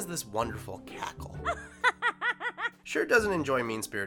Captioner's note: laughing